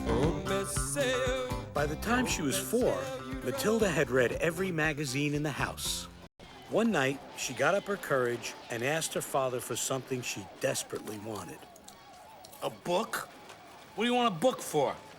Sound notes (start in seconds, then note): 6.3 whooping, Guns Firing